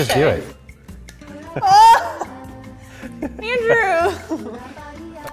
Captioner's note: laughing